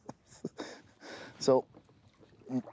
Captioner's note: he laughs